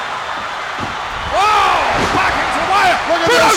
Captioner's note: Alfred exults